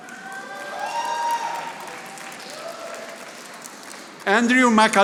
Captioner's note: audience applauding